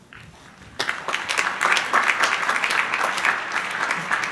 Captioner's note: crowd applauding